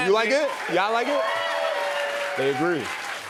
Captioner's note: cheers and applause